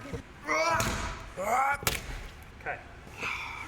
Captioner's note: grunting